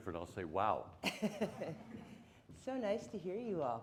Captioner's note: laughing